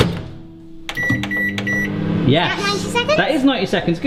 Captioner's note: microwave buttons beeps